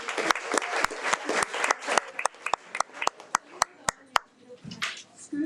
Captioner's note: audience applauding